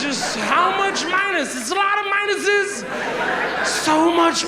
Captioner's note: audience laughs